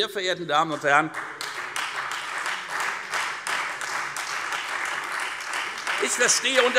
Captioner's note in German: Beifall Freie Demokraten, AfD und LINKE